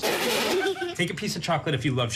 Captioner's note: laugh